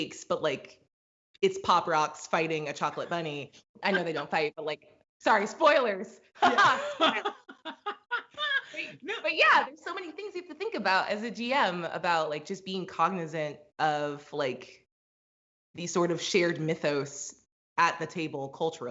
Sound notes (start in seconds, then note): 6.4 both laugh; 6.4 laughs